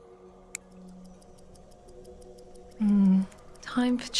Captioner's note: clock ticking